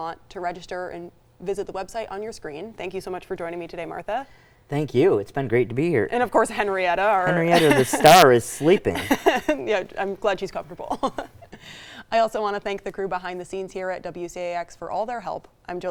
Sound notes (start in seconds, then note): 7.2 laughs